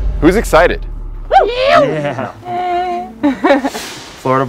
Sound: group exclaims

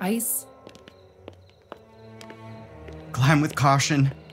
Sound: footsteps ascend stone stairs

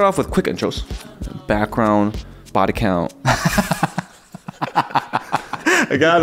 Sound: both laughing

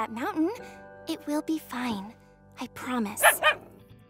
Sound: barking

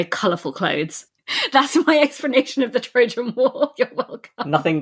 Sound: laughing

